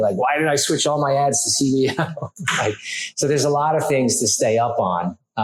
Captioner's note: laughs